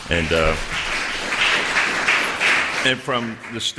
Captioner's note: applause